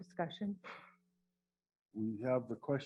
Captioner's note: sighs